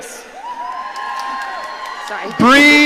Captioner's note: audience cheering